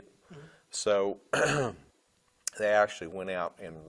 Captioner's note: clearing throat